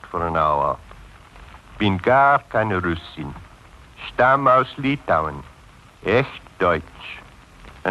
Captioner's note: speaking german